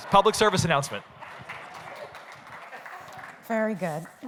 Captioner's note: applause